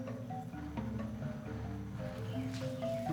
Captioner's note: footsteps on grass